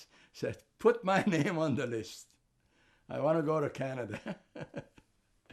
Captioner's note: laughing